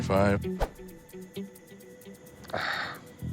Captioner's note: sighs